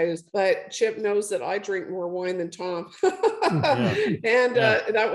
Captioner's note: laughs